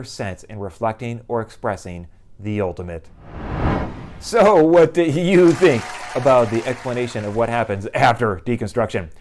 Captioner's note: applause